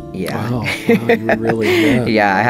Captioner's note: laughter